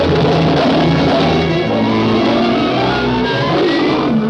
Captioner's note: lion roars; lion roaring